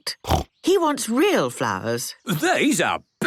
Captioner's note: snorting